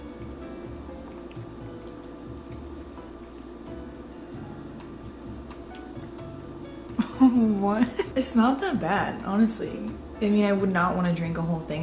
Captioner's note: giggles